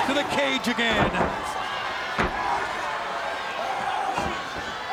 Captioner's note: body slamming; wrestlers screaming